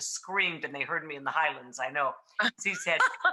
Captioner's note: Rachael laughing